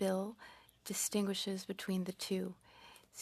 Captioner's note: speaking French